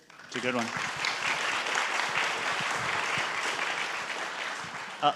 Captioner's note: audience applaud